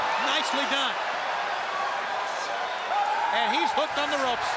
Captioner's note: crowd cheering